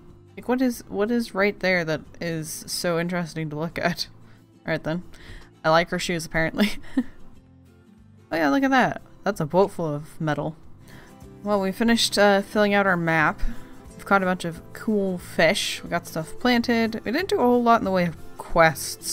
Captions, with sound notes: Like what is... What is right there that is so interesting to look at? All right then I like her shoes apparently *laughs* Oh yeah look at that that's a boat full of metal! Well we finished uh filling out our map. We've caught a bunch of cool fish. We got stuff planted. We didn't do a whole lot in the way of quests.